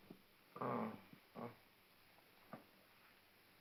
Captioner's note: Cosmo grumbles